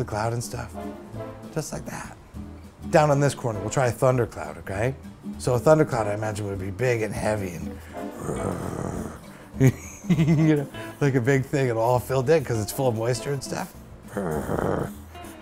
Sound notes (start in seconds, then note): 8.1 growl; 8.1 laughs; 14.1 growl